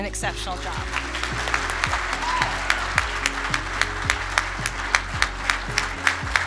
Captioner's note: audience applauding and cheering; bright music